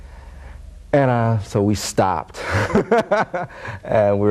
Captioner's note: laughing